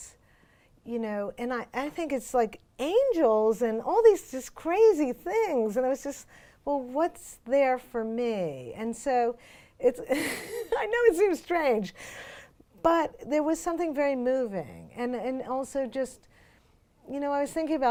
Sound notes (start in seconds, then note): 10.1 laughs